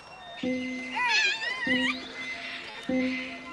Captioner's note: boys shouting and playing